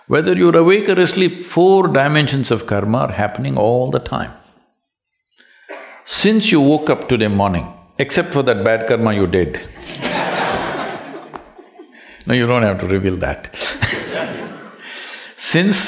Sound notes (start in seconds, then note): 9.7 laughter; 13.5 laughs